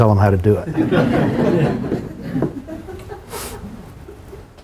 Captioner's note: laughter